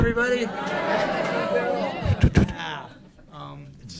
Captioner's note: laughter, audience responds "Hi!"